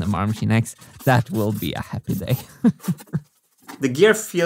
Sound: chuckles

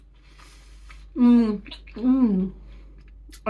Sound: chewing

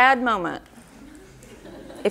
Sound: audience laughter

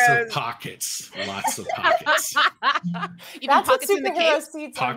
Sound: all laughing

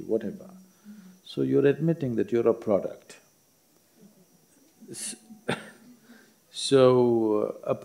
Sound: laughs

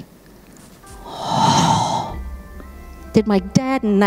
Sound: awed sighing

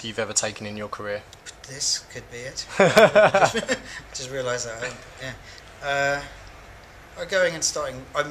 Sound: both laughs

